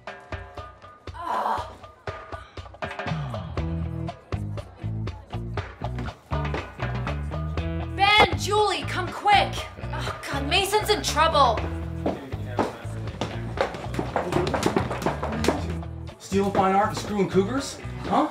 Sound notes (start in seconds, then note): 0.9 grunts; 2.9 funky music